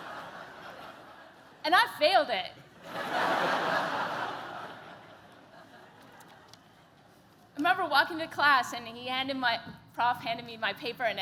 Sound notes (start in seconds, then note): 2.7 laughter